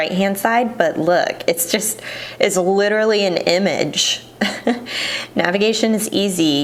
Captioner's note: chuckles